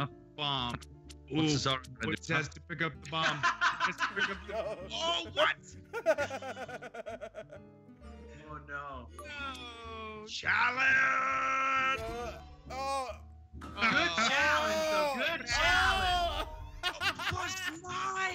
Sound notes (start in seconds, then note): 5.9 laugh; 8.8 laugh; 16.0 laugh